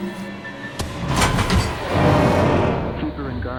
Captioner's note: thudding